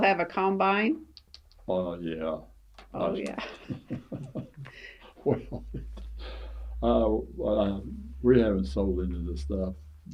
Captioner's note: laughs